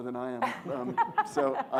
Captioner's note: audience laughs